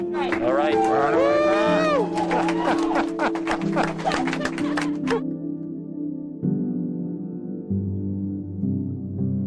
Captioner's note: cheering